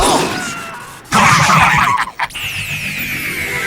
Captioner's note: bot noises